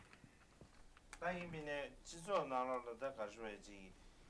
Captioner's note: non-english speech